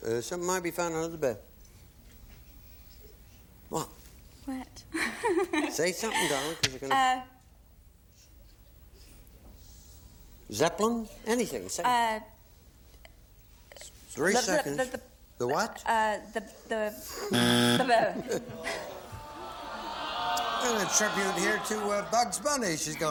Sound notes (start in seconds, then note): 17.3 buzzer